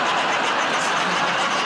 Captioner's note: laughter